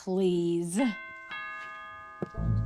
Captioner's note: doorbell